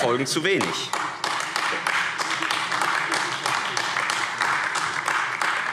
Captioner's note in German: Beifall AfD